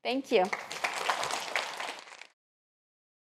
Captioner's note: applause